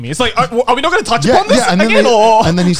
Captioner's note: laughs